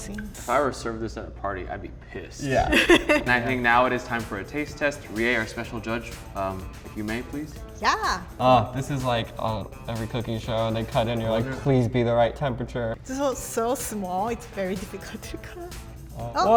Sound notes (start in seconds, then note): 2.4 laughing